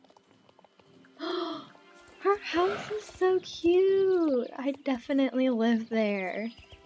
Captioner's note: gasp